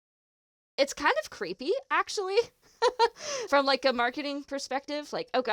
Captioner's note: giggles